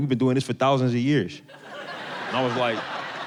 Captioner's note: audience laughing